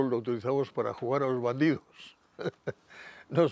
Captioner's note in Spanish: Ríe